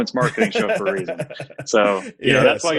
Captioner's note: laughs